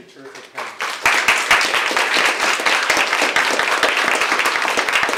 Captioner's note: audience applauds